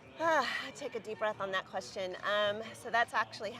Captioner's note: sighs